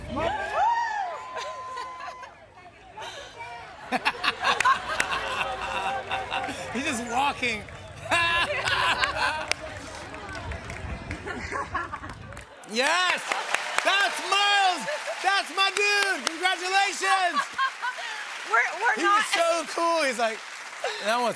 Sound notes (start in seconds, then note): 0.0 cheers and applause; 3.8 laughter; 8.0 laughter